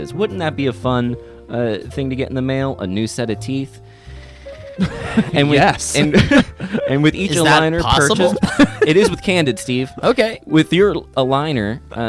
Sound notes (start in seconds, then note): 8.6 laughs